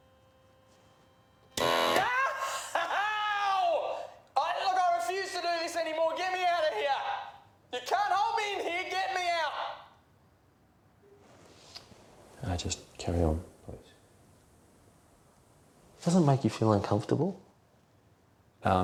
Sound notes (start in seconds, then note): 1.5 machine blaring; 1.9 yelling